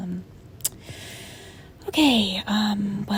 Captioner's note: clicks tongue; sighs